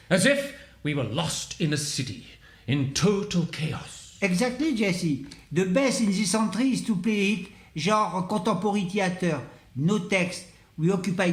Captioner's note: speaking french